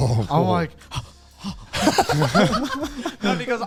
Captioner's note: breathing rapidly; all laugh